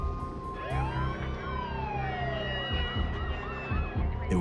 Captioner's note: sirens wailing